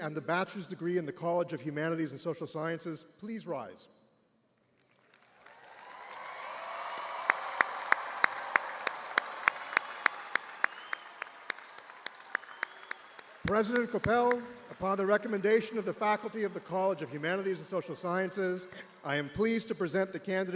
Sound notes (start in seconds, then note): 6.5 cheers and applause